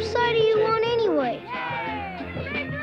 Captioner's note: kids cheering